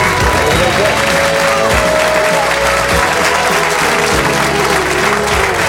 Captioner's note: baby chatters and giggles